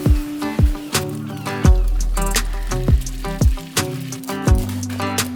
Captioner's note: eggs sizzling